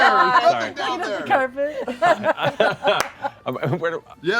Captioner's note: laughter